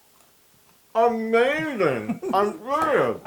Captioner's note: laugh